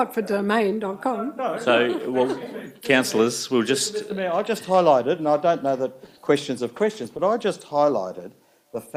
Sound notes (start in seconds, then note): 1.6 councillors chuckle